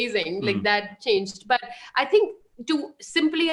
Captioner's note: chuckles